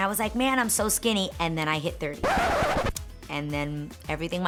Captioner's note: record scratching